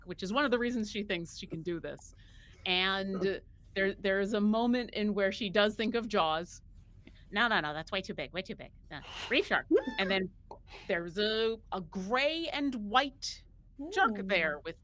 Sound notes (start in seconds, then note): 9.6 mimics popping